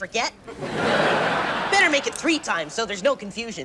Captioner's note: audience laughs